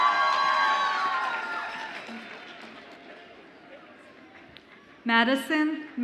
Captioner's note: audience applauds and cheers